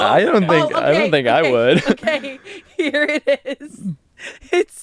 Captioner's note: laughs